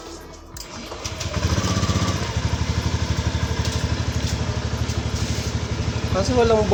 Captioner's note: motorcycle engine